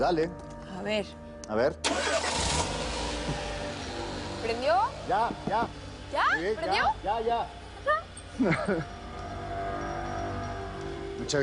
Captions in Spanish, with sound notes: PUES DALE. - A VER. - A VER. [Ruido del motor] - !¿PRENDIO?! - !YA, YA! - ¿YA? ¿PRENDIO? - !YA, YA! - ¿NETA?